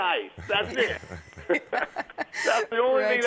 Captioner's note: laughter